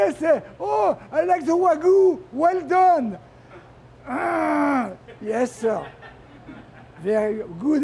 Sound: groans

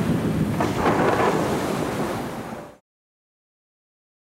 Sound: thunder

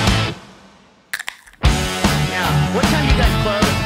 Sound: rock music; can opening

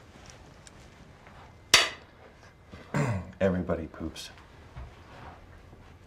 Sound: clears throat

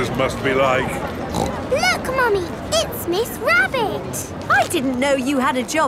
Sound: snorts

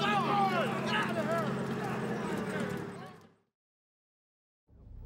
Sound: soldiers murmuring

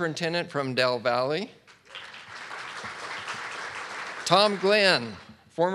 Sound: audience clapping

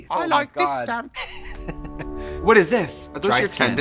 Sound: laughs

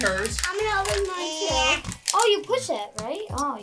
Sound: groaning

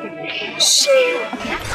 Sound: sound effect

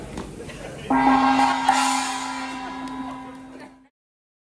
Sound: gong chiming

